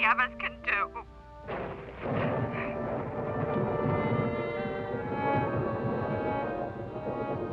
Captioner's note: thunder; rain falling